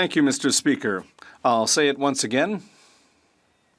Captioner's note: speaking French